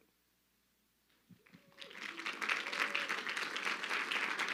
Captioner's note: crowd clapping